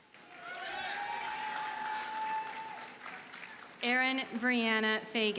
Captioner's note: audience cheers and applauds